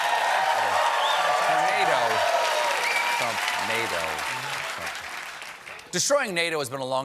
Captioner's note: cheers and applause